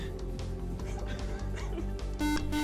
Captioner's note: beep